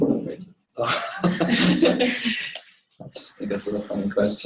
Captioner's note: laughter